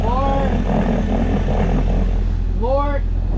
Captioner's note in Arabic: زئير المحرك